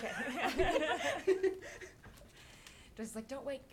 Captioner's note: laughing